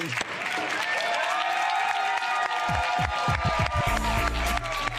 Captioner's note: audience cheering